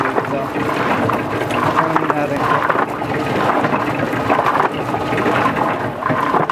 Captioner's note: drowned out by washer tumbling